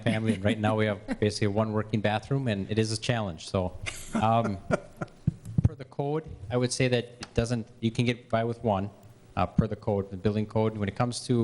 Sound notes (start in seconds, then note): 3.8 laughter